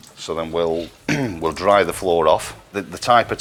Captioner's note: clears throat